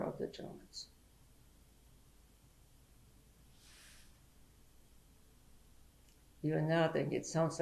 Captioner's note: pauses for 6 seconds